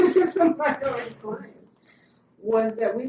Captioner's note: laughter